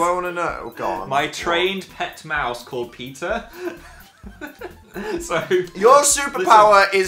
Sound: laughs

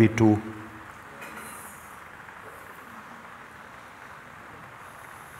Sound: voices in audience

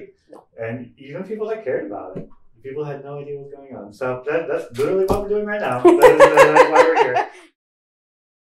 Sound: laughing

